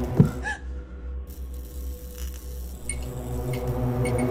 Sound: lights flicker; suspenseful music

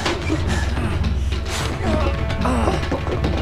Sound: grunting

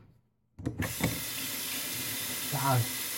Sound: water running

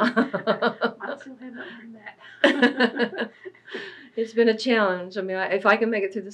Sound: laughs

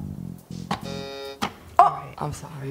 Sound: button beeps; button buzzes

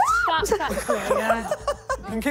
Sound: screaming; contestants laughing

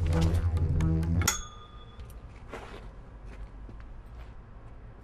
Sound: pipe clanking

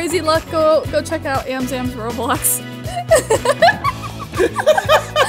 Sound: laughing

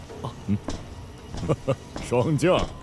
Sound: laughing

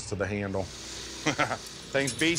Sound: laughs

